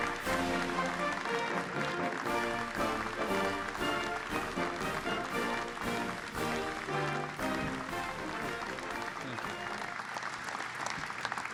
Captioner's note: applause